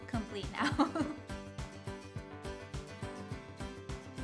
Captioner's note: laughs